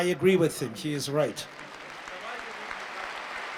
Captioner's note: applause